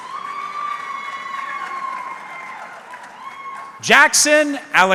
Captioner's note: audience cheering